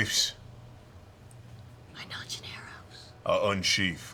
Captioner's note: whispering